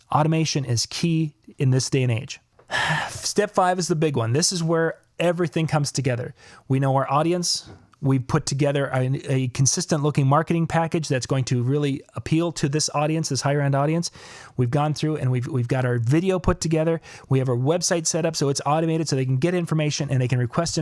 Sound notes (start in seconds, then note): 2.6 exhales deeply